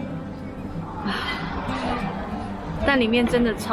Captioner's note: sigh~